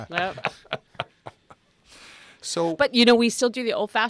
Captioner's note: laugh